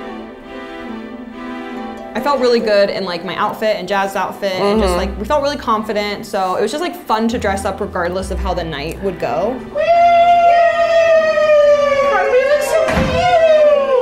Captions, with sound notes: I felt really good in my outfit and jazz outfit and just we felt really confident. So it was just like fun to dress up regardless of how the night would go. (both yelling)